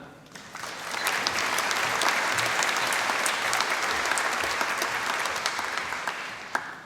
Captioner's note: applause